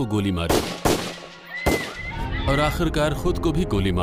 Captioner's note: gunshots, women screaming